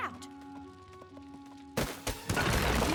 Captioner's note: thudding